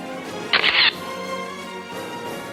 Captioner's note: orchestral music; camera shatters